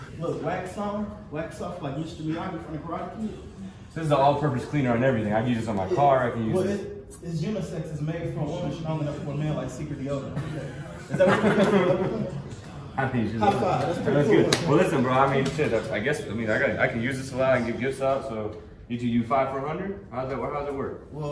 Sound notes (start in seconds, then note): 10.3 laughing; 12.6 murmurs